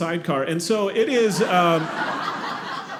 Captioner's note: audience laughing